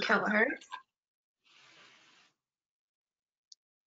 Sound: silence

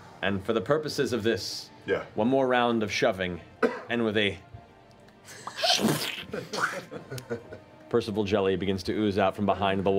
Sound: squish

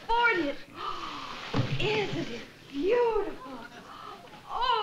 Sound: gasps

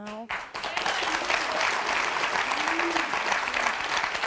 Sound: audience applauding

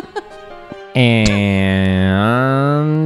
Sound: laugh

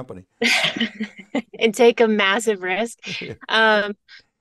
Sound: laughs

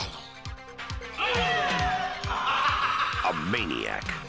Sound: laugh

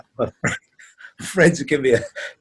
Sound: laughs

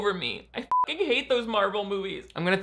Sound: beep

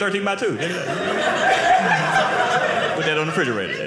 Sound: audience laughing

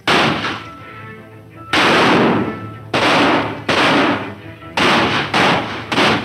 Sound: gunshots; horse hoof beats; reins metal hitting together

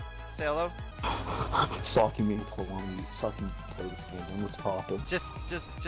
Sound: heavy excited breathing

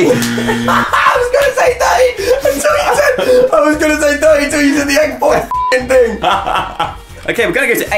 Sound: beep

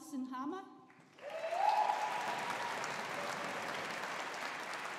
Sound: audience applauding

